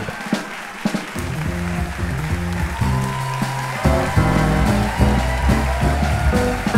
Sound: audience applauding; upbeat jazz music

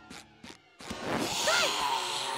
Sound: hissing

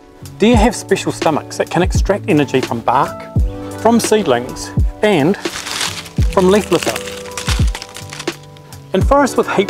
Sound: leaves crackling

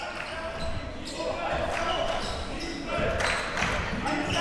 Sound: crowd cheering

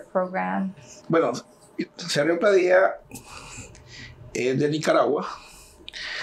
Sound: speaking in Spanish

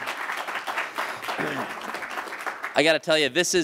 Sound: applause

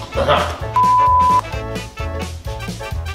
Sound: beep

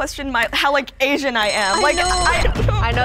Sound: bell rings

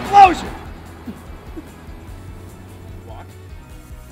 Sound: laughs

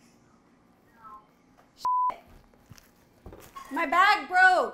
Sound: beep

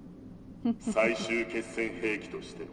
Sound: laughs

